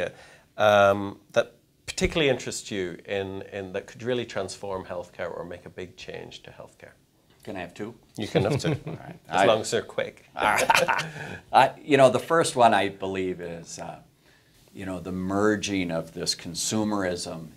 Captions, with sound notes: that particularly interests you and that could really transform healthcare or make a big change to healthcare? - Can I have two? - You can have two, as long as they're quick. (laughing) - You know the first one I believe is the merging of this consumerism and technology.